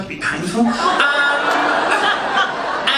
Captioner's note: audience laughing